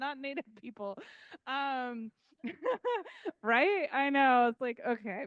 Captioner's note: laughing